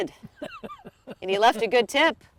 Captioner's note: laughing